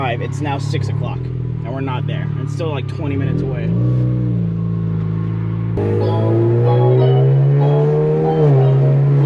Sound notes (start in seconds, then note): 3.8 car engine revving; 5.8 laid back music